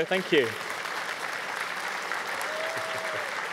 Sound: audience cheering

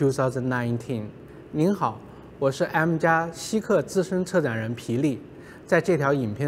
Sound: Mandarin

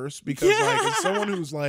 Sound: giggles

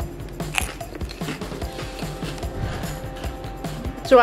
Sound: mom chewing

